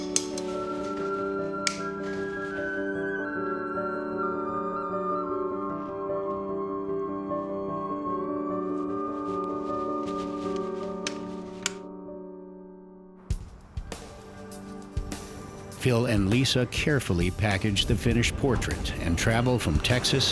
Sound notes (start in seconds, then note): 11.6 light switches